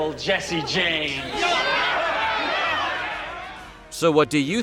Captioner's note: audience clamoring